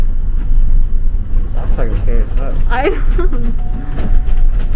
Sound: laughs

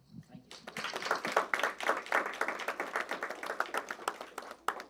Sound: audience applauds

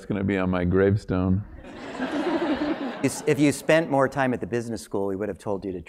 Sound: laugh

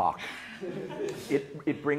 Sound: laugh

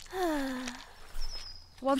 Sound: sigh

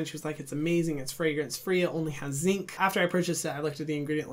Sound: none

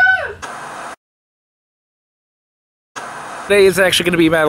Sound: static hissing

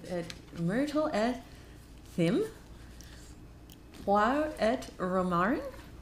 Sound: speaking in foreign language

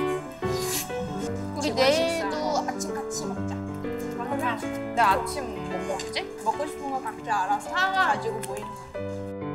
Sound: chatting about breakfast for tomorrow

